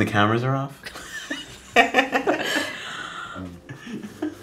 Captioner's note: laughing